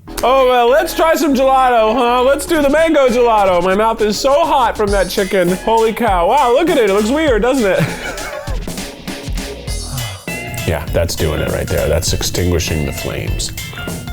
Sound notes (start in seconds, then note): 6.1 upbeat music; 9.1 laughs